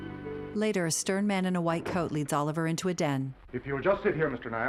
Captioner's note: door slamming